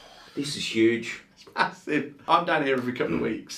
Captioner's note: laughing